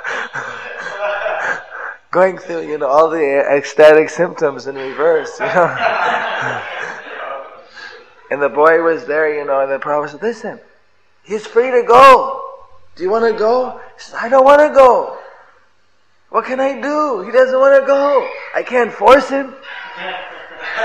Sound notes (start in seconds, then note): 4.7 devotees laughs